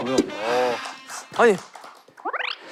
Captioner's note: applause